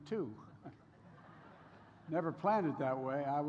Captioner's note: laughter